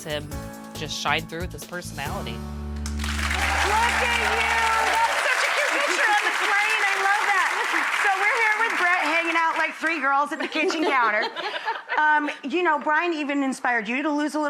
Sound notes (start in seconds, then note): 3.1 audience applauding; 10.4 laughing